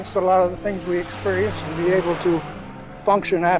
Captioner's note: waves crashing